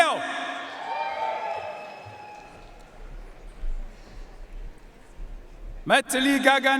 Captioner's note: audience cheering and applauding